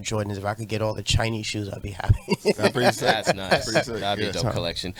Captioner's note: laughs